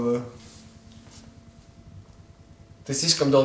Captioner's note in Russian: тишина